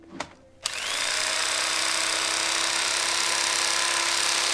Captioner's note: knife whirring on